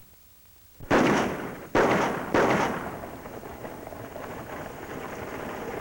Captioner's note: gun shots